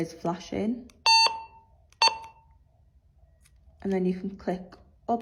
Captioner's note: beeping